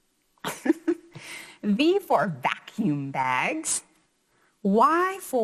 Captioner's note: chuckles